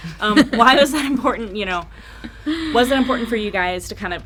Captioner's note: laughing